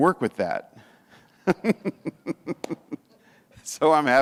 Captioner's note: chuckles